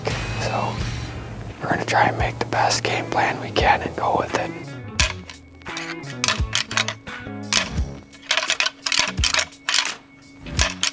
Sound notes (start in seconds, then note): 5.1 antlers rattling; 5.1 energetic music